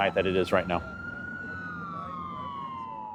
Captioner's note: sirens